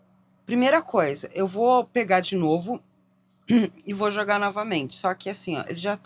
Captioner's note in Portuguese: limpando a garganta